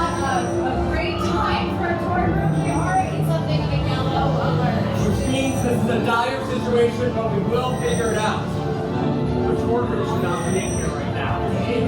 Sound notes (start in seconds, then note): 10.1 alarm continues